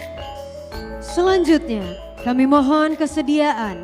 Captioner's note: speaking indonesian